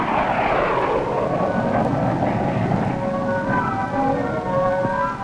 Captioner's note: plane engine humming